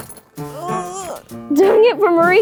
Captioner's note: mysterious piano music; zipper zipping; groans